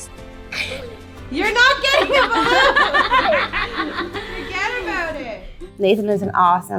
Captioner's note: laughing